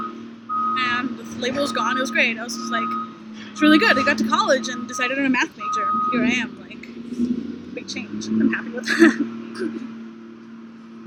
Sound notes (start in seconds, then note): 8.6 laughter